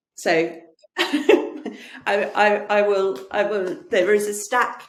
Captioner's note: laughs